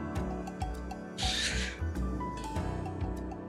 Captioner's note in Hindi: साँस छोड़ते हुए